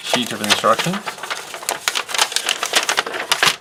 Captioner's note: paper crinkling